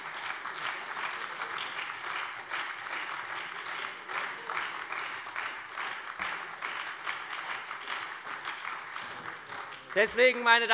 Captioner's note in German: Beifall bei der SPD und der FDP